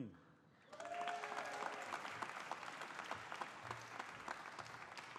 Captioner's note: audience applauding